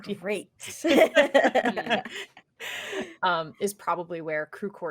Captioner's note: laugh